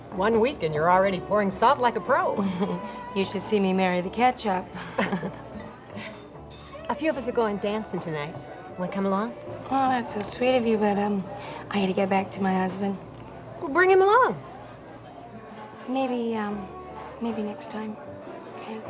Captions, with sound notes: - One week and you're already pouring salt like a pro. - You should see me marry the ketchup. - (laughs) A few of us are going dancing tonight, wanna come along? - Oh, that's so sweet of you, but I gotta get back to my husband. - Well bring him along. - Maybe, maybe next time, okay?